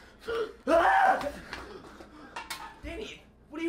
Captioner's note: screams; gasps